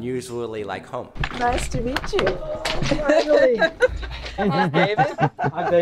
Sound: laughs

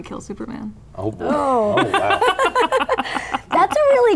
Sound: laughing

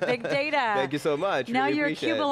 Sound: laughs

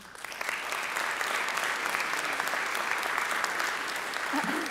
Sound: audience applauding

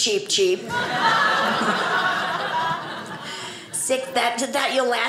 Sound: audience laughing

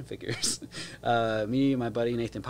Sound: chuckles

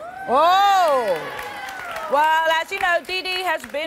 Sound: applause

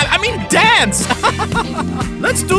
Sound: laughs

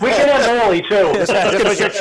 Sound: all laugh

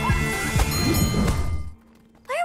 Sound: music playing, screaming; dinging

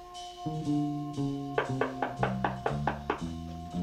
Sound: knock on door

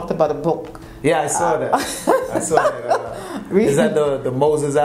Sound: laughing

